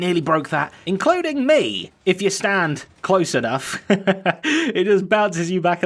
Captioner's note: chuckles